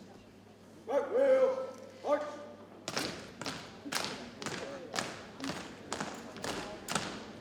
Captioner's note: rhythmic thumping